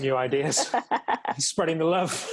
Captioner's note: laughs